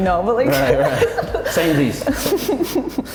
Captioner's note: giggling; laughing